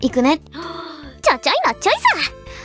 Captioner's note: takes a deep breath